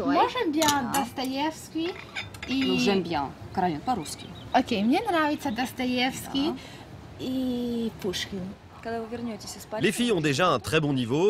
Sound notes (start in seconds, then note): 3.2 continues in Russian